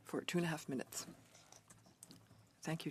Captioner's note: speaking French